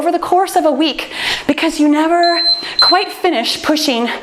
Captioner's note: timer beeps